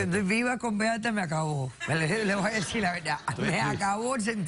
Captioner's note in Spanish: Risas